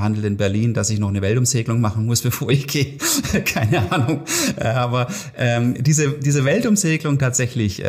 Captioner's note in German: lacht